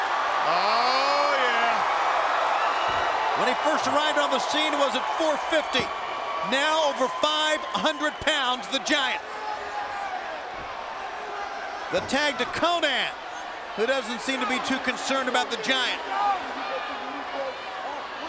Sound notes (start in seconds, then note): 0.2 rousing cheers; 9.3 Konnan shouting; 16.7 Konnan taunting